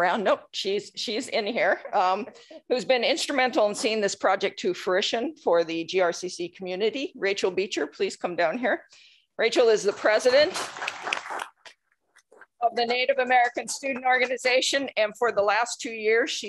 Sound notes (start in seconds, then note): 10.2 applause